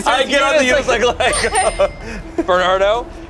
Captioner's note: bell dings